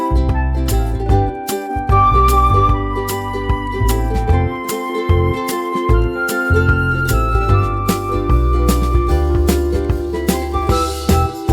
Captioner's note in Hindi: तालियाँ